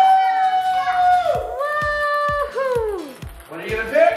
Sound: cheers

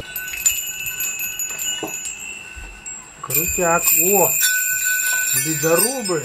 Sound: bells ringing

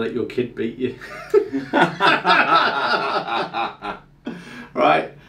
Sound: group laughing

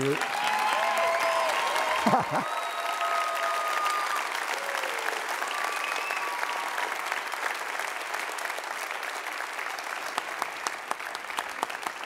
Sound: audience Applauds

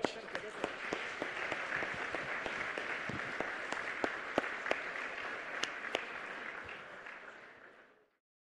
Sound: applause

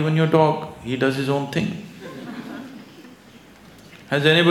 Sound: laughter

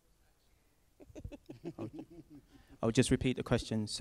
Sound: laughs

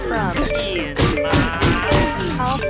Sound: banging; grunting

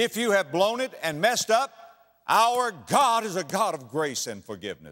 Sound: slap

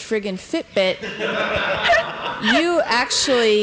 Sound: laughter

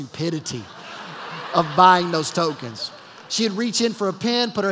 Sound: laughter

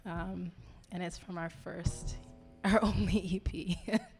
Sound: laughing

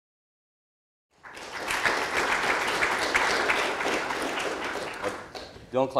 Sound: audience applause

